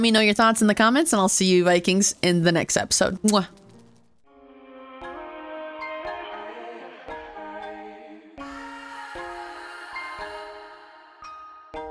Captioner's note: kiss